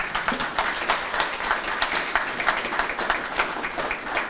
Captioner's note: audience applauding